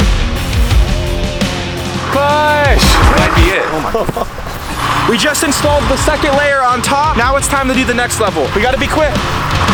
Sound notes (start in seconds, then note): 0.0 epic music; 2.6 man laughs; 4.9 crane engine revs